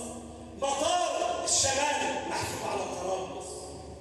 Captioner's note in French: Arab spoken audio